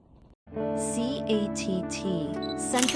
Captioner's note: camera shutter clicks